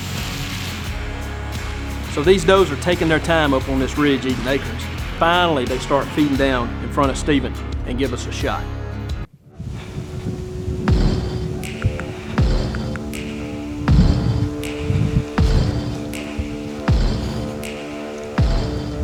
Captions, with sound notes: - So, these does are taking their time up on this ridge eating acorns. Finally, they start feeding down in front of Steven, and give us a shot. (wind blowing) (heavy breathing)